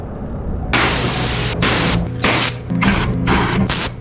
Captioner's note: hose spraying